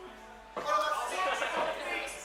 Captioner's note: participants laughing